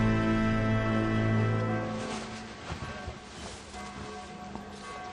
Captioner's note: clothing rustles